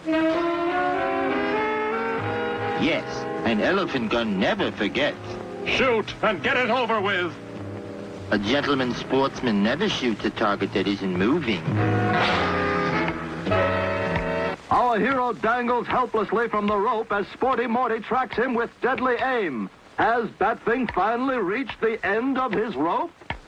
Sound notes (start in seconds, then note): 0.3 suspenseful music; 12.1 air whoosh; 13.0 Batfink tick-tocking; 13.4 suspenseful music